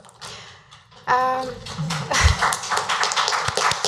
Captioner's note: applause